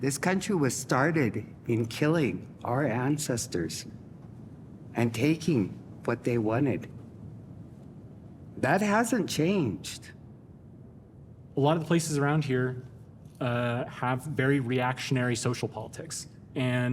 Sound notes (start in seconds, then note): none